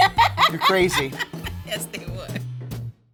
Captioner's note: laughs